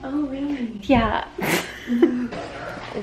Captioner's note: some weird mouth/nose snort